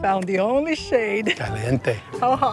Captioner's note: in Spanish